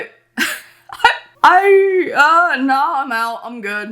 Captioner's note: woman laughs